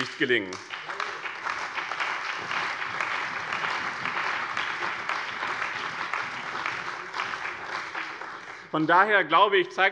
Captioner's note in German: Beifall bei dem BÜNDNIS 90/DIE GRÜNEN, der CDU und der SPD